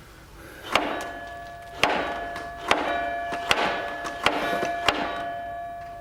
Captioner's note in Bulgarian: камбана RINGS